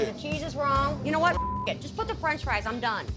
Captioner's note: beep